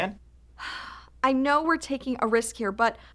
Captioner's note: sighs